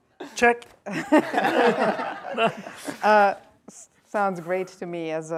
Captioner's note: laughter